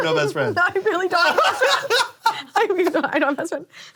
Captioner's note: laughing